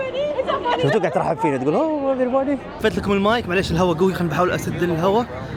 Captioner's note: laughs